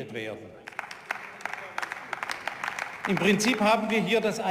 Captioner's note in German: Beifall